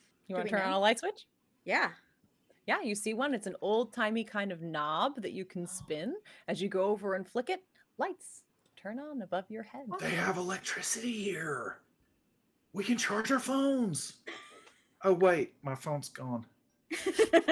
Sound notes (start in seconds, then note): 14.3 chuckles; 17.3 laughing